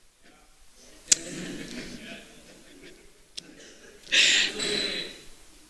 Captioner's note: laughter